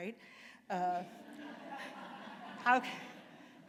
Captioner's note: laughter